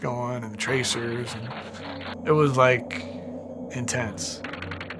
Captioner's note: gunfire